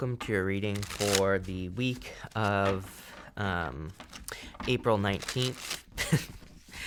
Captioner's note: chuckles